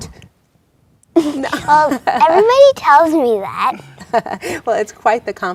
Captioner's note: laughs